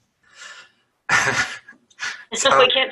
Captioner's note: laughs